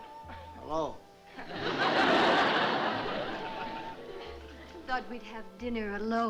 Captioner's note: laughter